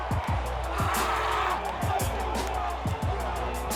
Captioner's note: yelling